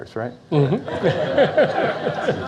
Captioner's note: laughs; audience Laughs